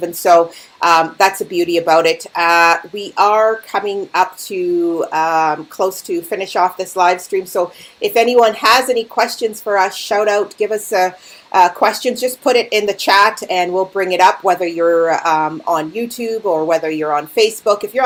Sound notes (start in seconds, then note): none